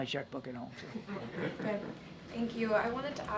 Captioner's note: laughter